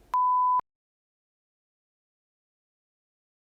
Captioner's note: long beep